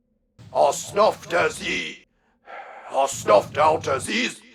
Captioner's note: sighs